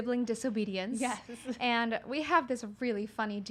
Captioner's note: giggles